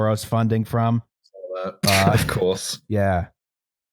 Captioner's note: laughs